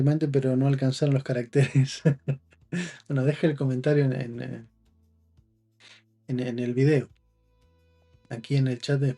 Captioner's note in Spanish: risas